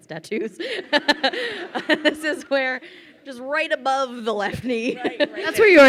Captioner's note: laughs